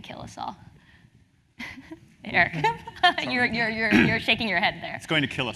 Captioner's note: laugh